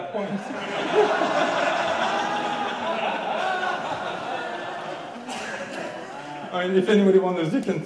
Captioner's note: audience laughing